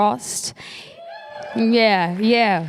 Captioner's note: applause